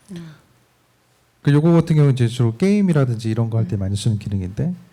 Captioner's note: speaking korean